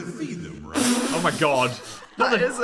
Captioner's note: snorting